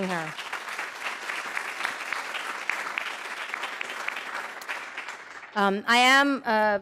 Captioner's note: applause